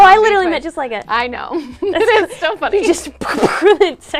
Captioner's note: laughs